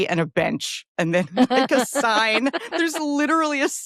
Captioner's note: laughs